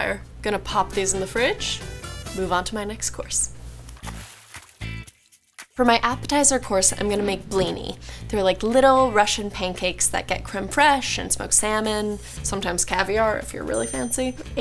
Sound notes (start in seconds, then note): 3.9 water splashes; 4.0 bright music